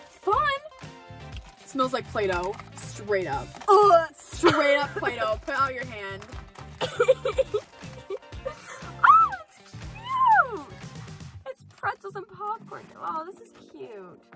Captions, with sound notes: - Fun! Smells like Play-Doh, straight up. (gagging) - Straight up Play-Doh, put out your hand. - Oh! It's cute! It's pretzels and popcorn, aw this is cute.